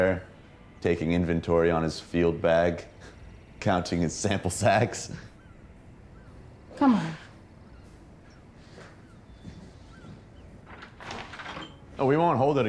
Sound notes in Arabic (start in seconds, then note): 6.6 يضحك; 9.4 فتح الباب